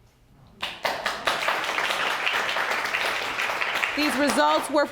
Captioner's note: audience applauding